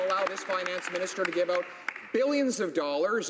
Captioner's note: some Applause